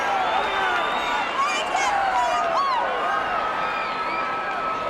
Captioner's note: crowd chattering